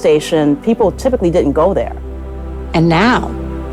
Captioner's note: none